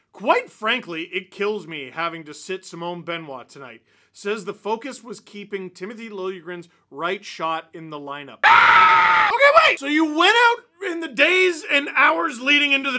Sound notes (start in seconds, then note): 8.4 face palming scream